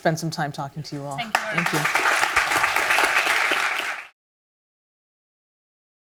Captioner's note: audience applauds